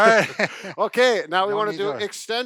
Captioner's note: laughs